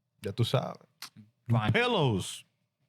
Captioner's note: speaking In Foreign Language